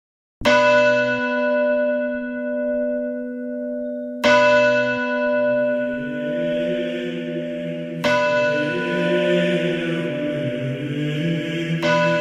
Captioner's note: soundbite of bell; choir